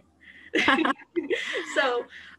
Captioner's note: laughter